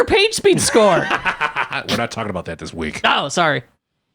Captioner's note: laughs